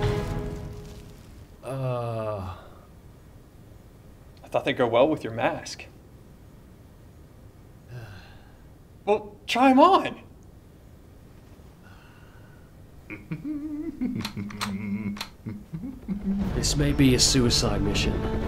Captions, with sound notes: UhhÖ I thought theyíd go well with your mask. (sigh) Well, try them on! (sigh) (Snake hums) This may be a suicide mission.